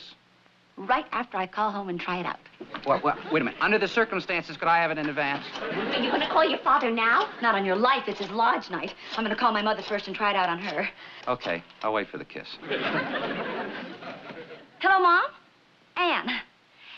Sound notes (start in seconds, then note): 12.2 dialing